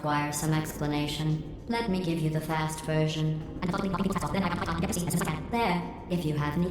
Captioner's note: gargled, sped-up reading of Moby Dick